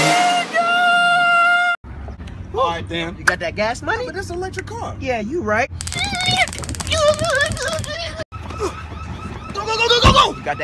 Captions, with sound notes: NIGGGAAA!!!! A'ight then. You got that gas money? But this an electric car. Yeah, you right. Nigga! (alarm sounds off) Go, Go, Go, Go, Go, Go!